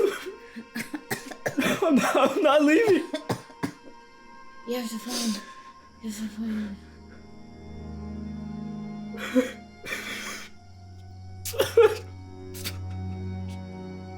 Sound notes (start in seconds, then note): 0.0 Alan crying; 0.0 Carrie coughing; 8.2 Alan crying; 8.2 somber music